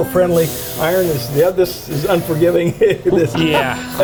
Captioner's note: laughing